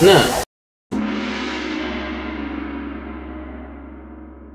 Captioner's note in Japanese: 銅鑼の音